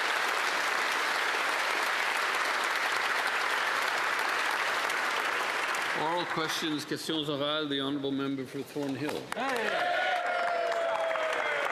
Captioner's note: applause